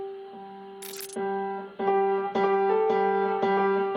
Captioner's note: audio glitches